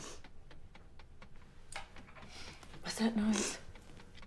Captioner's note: distant tapping rattles